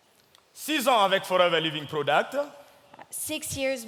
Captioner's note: speaking in French